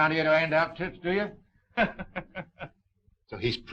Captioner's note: laughing